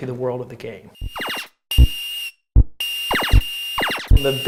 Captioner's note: Space Invaders sound effects